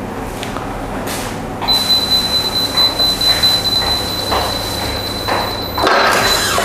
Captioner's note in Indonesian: suara beep